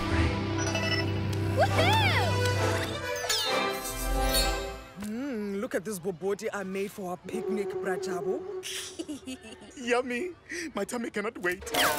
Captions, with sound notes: Woohoo! Mmm, look at this Bobotie I made for our picnic. (Snickers) Yummy! My tummy cannot wait!